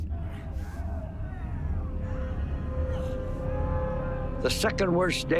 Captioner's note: men screaming in distance